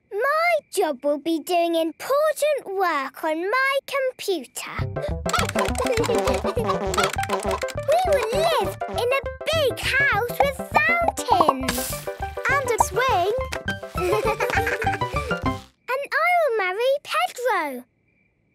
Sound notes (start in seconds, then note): 5.2 keyboard tapping; 5.3 computer game chickens clucking